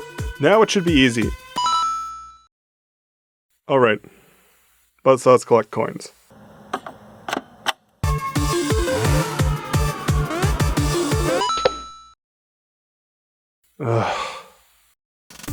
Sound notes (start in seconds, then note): 1.6 coin collecting noises; 11.4 coin get